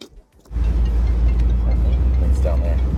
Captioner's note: cell phone ringing